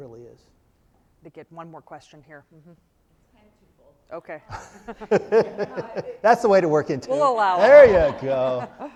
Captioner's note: crowd laugh at something offscreen